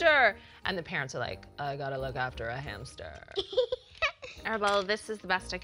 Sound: giggles

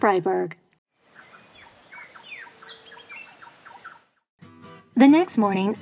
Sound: bird song; upbeat music

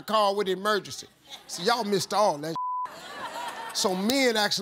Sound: beep

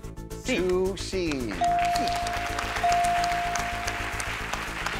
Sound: chimes dinging

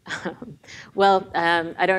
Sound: laughs

